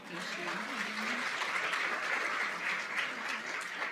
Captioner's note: applause